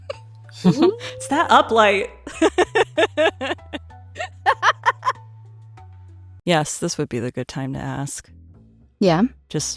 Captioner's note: chuckles; giggle